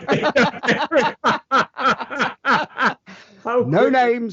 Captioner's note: both laugh